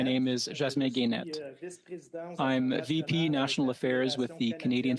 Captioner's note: speaking French